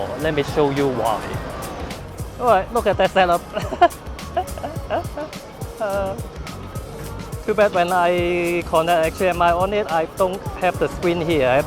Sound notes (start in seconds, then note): 3.3 chuckling